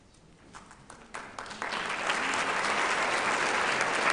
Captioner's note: applauding